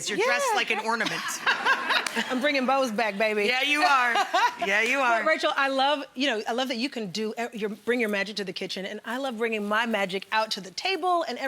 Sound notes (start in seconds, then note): 0.2 laughing